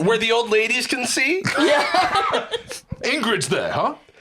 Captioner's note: laughs